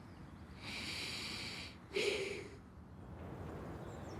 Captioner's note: he inhales, exhales